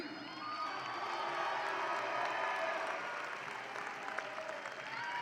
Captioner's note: audience applauds and cheers